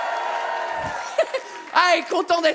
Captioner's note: chuckle